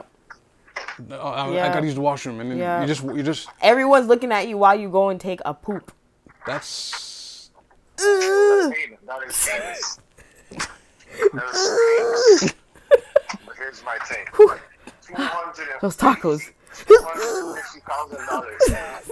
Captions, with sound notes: I got used to the washroom. And then you just-- Everyone's looking at you while you go and take a poop. That's-- [GROANING] I mean, not in cities. [GROANING] Here's my thing. Whoo. She called it another-- Those tacos. $250,000!